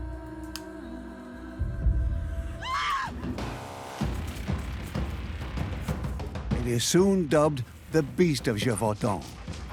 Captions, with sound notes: (she screams) It is soon dubbed the Beast of Gévaudan.